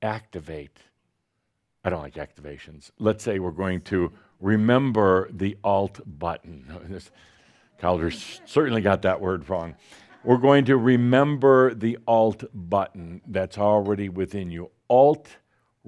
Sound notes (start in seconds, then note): 7.8 audience chuckles